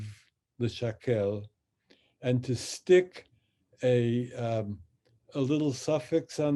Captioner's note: speaks in Hebrew